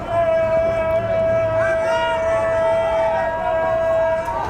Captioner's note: fans cheering